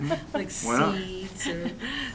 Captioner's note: laughter